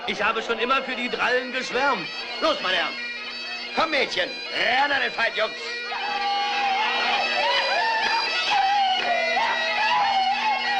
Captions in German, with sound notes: Und eine hübschere Dame habe ich noch nie gesehen. [Dudelsack spielt] [Gelächter, Rufe]